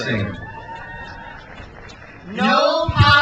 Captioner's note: crowd cheers